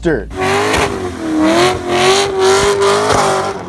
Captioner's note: engine revs